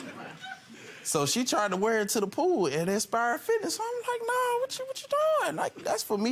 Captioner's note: audience laughing